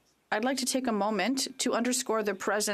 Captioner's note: speaking French